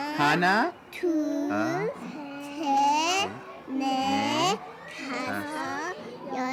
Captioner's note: children count in korean